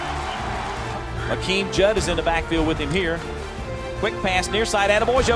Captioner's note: voiceover